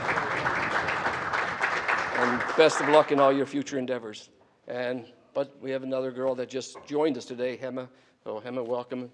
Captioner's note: applause